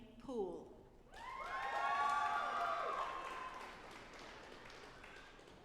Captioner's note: audience applauding